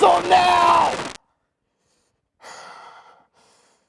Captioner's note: static ceases; breathing heavily